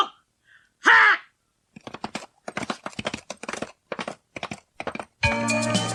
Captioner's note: SFX: horse galloping away